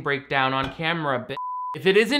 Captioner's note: beep